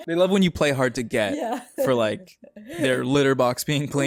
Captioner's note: laughing throughout